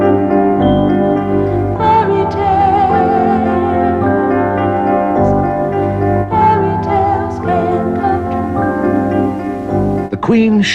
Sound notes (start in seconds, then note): none